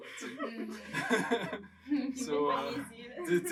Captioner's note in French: rires